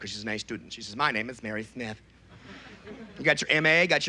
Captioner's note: effeminate voice